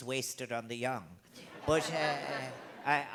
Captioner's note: crowd Laughing